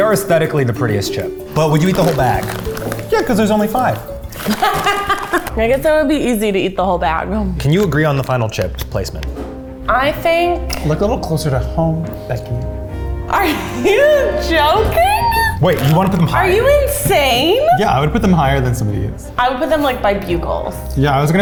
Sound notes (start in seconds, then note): 4.4 all laughing; 13.4 laughing